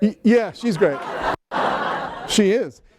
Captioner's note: laughter